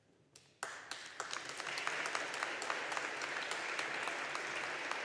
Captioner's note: audience applauding